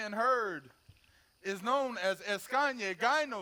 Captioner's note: speaks foreign language